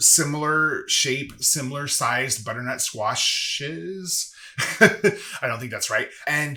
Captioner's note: giggles